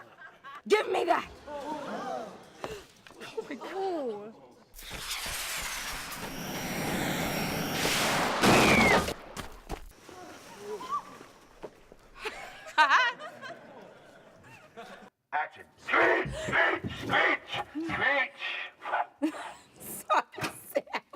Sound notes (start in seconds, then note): 1.6 crowd gasps; 7.9 explosion; 7.9 monkey screeches; 12.2 laughing; 18.9 laughing